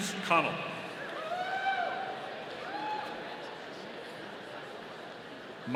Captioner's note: audience cheering